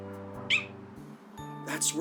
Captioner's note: Spike yips